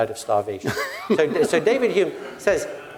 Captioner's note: laugh